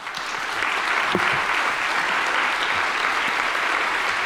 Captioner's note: audience applauding